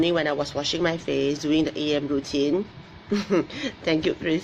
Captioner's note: laughs